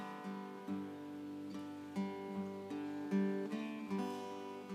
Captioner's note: none